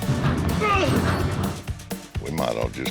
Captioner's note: grunts